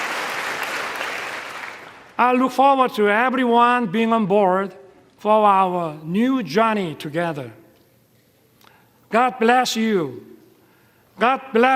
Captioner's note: applause